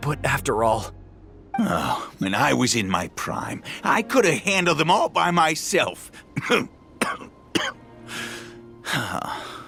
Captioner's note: cough; sigh